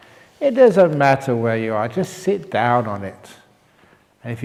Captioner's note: none